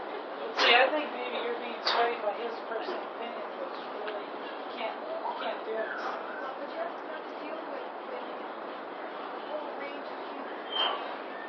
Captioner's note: konuşmalar